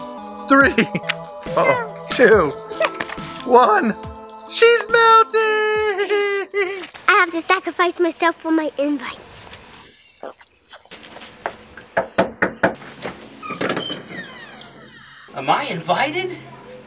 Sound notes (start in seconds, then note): 11.8 knocks on door